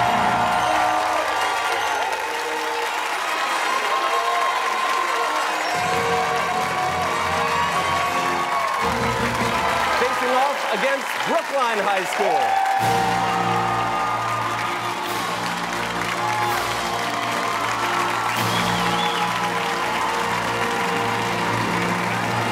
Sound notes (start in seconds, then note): 0.2 fanfare; 3.6 cheers and applause; 12.6 fanfare; 17.0 cheers and applause